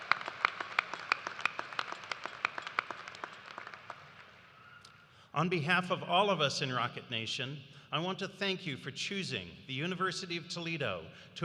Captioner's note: cheers and applause